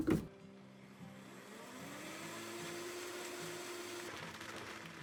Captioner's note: motor whirring